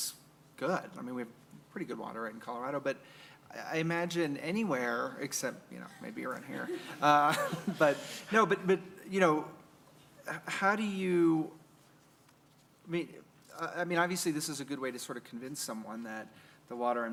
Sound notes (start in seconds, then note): 6.5 laughter